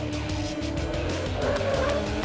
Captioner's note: clapping